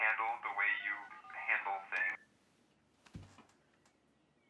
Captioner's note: phone dialing